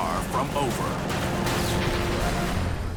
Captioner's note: gunfire